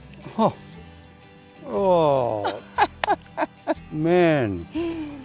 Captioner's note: laughs